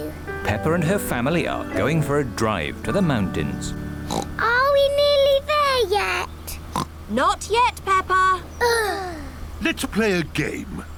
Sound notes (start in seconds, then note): 4.0 oinks; 6.7 oinks; 8.6 both sigh